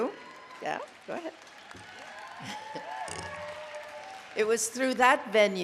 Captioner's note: applause